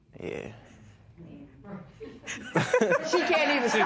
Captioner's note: laughs